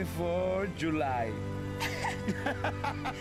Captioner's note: laughs